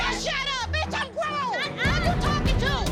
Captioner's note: arguing